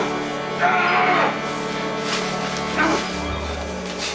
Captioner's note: grunting